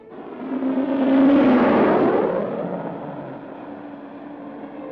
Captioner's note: projectile blasting